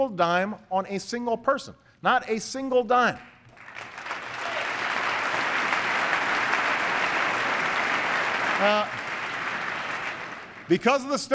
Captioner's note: applause